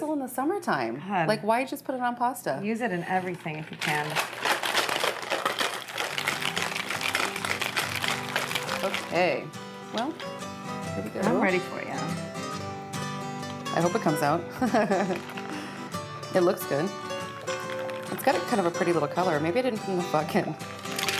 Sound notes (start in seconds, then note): 3.7 ice shaking